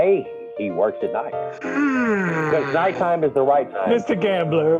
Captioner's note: yawn